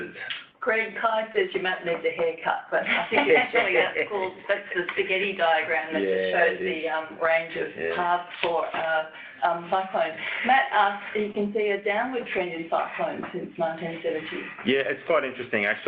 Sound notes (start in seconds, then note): 2.8 laughter